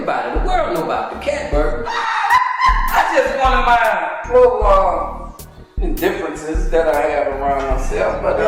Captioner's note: laughing